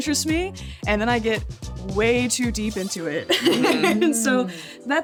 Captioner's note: laughs